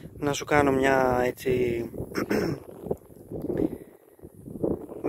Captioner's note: clears throat